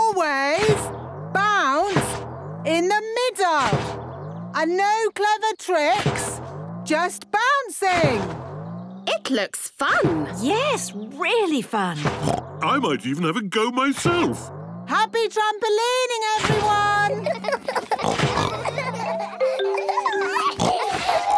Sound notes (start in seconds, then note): 12.1 snorts; 17.0 all laughing; 20.0 giggles, snorts